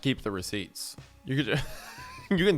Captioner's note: laughs